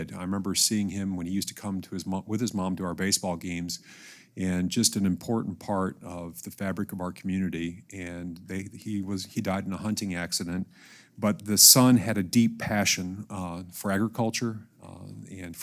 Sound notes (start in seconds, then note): none